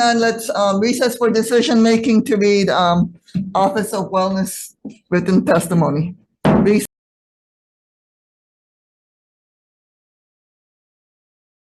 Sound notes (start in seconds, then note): 6.4 gavel thudding